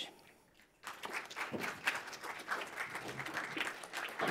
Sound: audience applauding

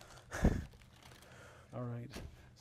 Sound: chuckles

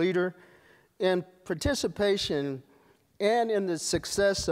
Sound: none

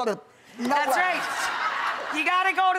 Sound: laughing

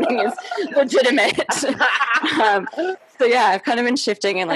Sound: laughing

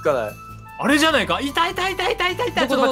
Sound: rejoicing

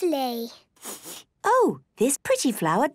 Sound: sniffs

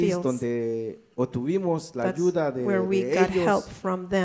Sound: speaks in foreign language

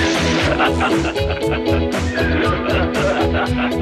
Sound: laughing

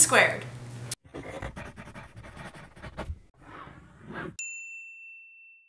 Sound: calligraphy pen scratching

